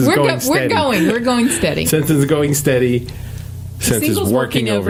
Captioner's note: laughing